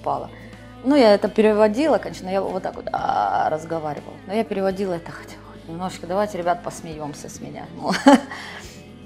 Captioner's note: wheezing